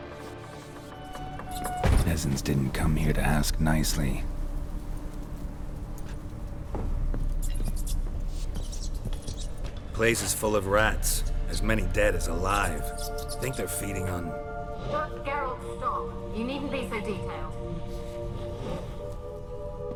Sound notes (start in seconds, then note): 7.2 mice squeaking